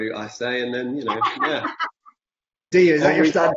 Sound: Jodie laughs

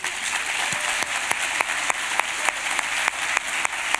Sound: applause

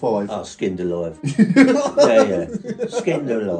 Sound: laughing

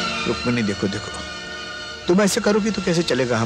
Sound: none

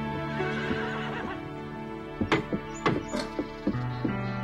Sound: soft music; horse neighing

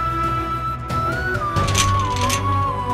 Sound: gate opens

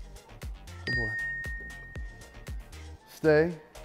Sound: bell dings

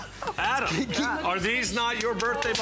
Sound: laughter

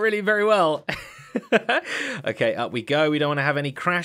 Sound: laughs

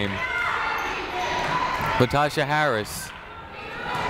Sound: people shouting in the crowd

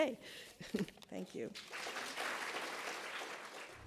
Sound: applauds

